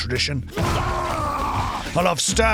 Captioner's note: bwaaarggh!!